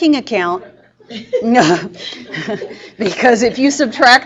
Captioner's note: laughing